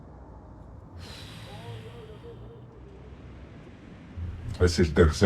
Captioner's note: breathing heavily